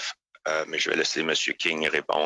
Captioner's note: speaking French